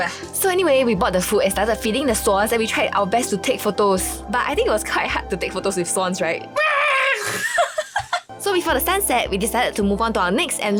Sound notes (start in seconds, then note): 6.6 swan scream